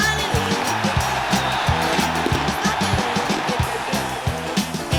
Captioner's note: crowd cheering